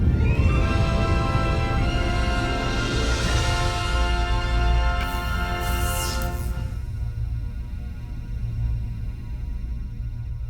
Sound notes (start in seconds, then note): 5.0 laser crackles